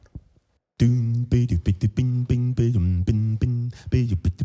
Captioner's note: loud beatboxing